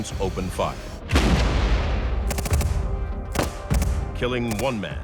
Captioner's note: guns firing